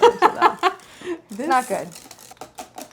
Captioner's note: laughing